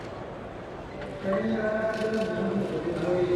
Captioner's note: speaking in Burmese